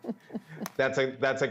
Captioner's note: laughter